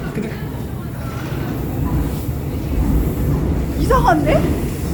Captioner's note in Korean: 지하철 들어오는 소리